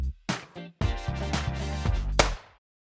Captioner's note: fake gun shot sound